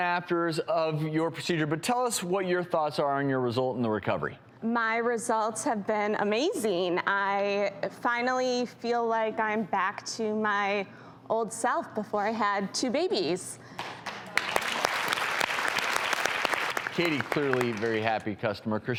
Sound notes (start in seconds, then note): 14.0 audience applause